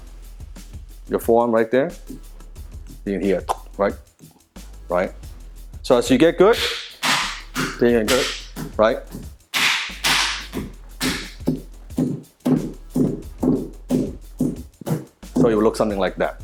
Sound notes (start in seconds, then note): 8.0 slapping stone reverberation; 11.0 stone thudding